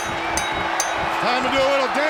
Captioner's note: bell ringing